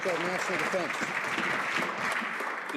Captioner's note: some Applause